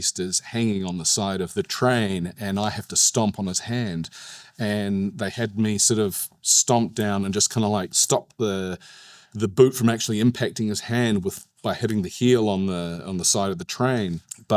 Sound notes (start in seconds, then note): none